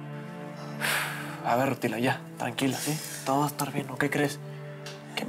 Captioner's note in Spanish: exhala